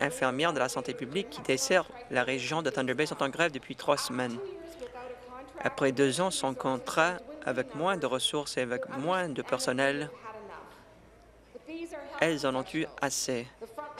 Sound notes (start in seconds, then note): none